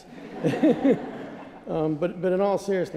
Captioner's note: laughter